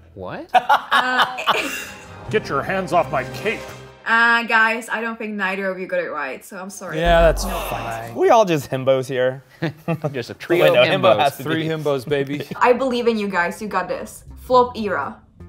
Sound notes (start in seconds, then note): 0.5 laugh; 9.6 laughs